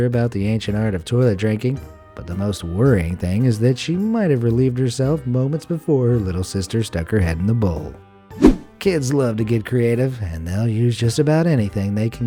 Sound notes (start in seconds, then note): 8.4 air whooshing